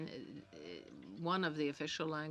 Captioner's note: speaking French